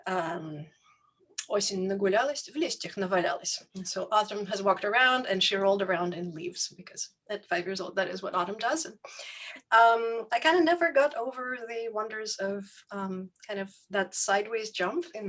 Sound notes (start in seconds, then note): 1.6 speaks in foreign language